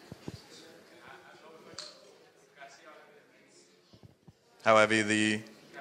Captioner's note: speaking faintly